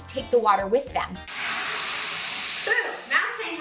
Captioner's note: bottled water spraying